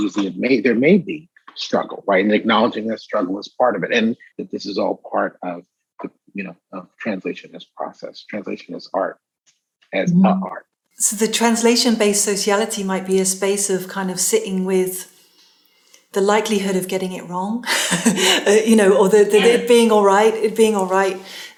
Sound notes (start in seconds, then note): 17.6 laughing